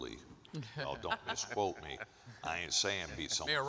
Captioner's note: panelists chuckle